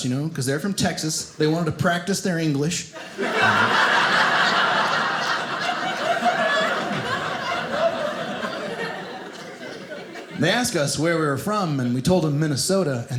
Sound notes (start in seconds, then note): 2.9 audience laughing